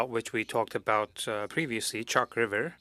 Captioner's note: speaking French